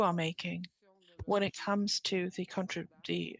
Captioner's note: speaking French